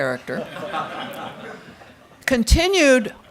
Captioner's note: crowd laughing